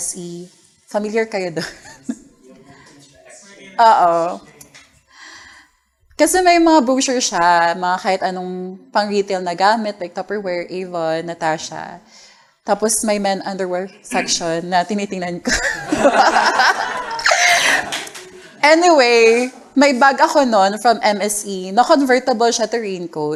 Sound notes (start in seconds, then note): 15.4 laughter